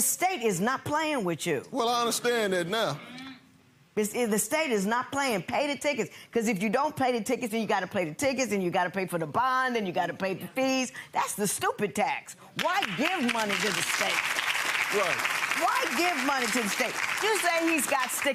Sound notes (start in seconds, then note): 14.5 audience applauding